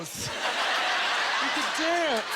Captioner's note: audience laughter